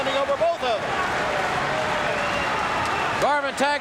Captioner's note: audience cheering